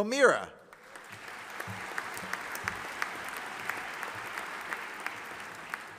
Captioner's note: audience applauding